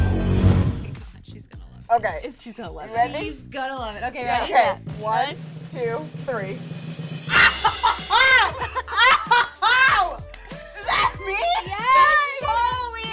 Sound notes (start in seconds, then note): 4.8 drum rolls; 7.3 screams out of excitement